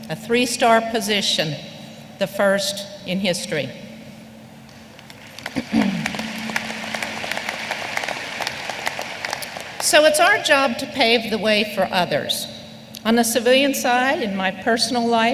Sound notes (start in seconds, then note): 5.0 applause